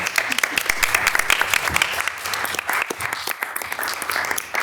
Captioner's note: attendees clapping